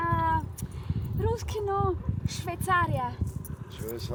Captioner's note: speaking Russian; in Armenian